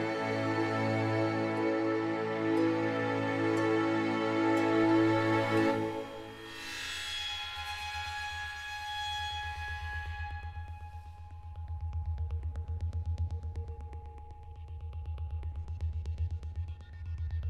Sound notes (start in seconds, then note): none